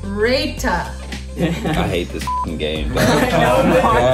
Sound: beep

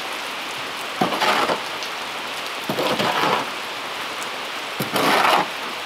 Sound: tool scraping against plastic

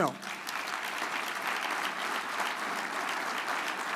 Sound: audience applauds

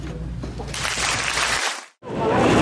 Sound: clapping sound effect

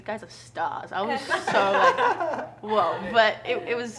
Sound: laughs

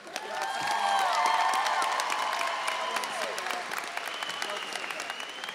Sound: audience cheering and applauding

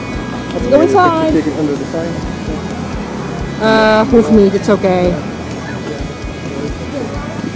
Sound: background chat

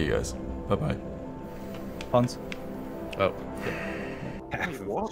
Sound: sighs

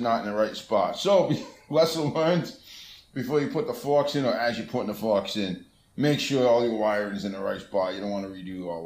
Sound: laughingly

